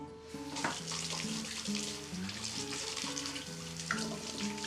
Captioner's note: water splashing